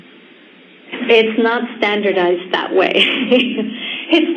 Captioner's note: laughs